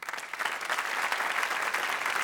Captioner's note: audience applauding